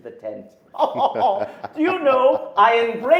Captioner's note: men laughing